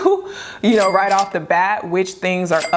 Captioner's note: register dings